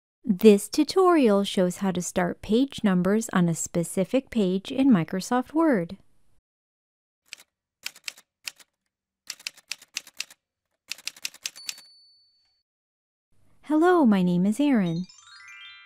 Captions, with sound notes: This tutorial shows how to start page numbers on a specific page in Microsoft Word. [Typewriter sounds] Hello, my name is Erin.